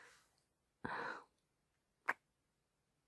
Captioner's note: kiss; sighs